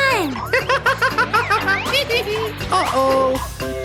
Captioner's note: laughing